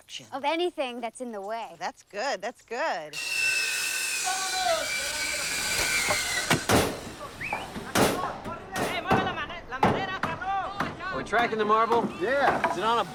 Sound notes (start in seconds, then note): 3.1 saw buzzing; 6.5 yelling in Spanish; 7.5 hammering